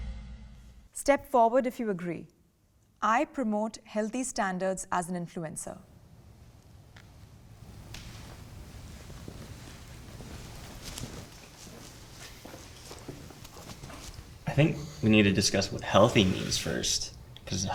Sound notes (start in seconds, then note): 7.6 footsteps approaching